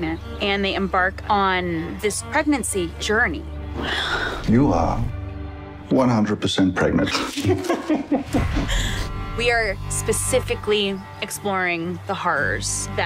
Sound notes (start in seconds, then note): 7.0 laughter